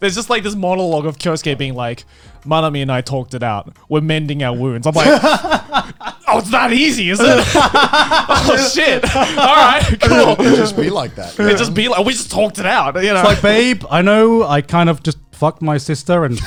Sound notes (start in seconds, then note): 5.4 laughing